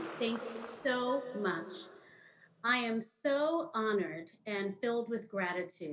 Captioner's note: applause